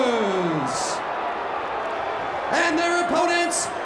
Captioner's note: audience cheers